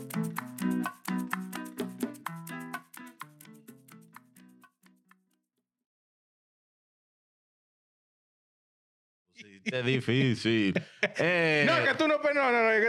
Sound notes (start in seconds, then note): 1.9 speaking Spanish